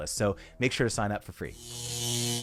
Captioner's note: static buzzes